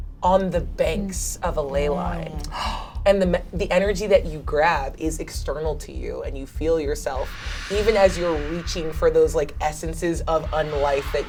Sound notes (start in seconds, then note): 2.4 gasps